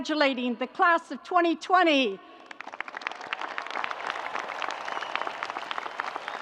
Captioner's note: audience applauds